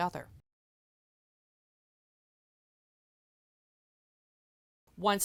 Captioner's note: no Sound Present